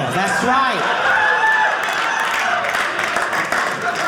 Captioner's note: audience laughing